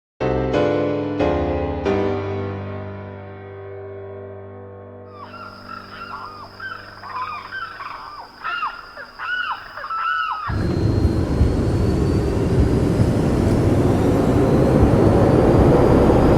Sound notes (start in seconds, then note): 6.0 jungle sounds; 10.4 jet engine